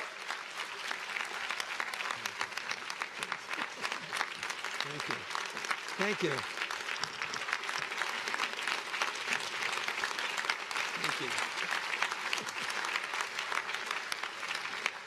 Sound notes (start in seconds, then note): 3.1 cheers and applause; 12.5 applause